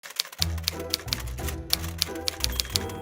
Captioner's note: typewriter clicks; light orchestral music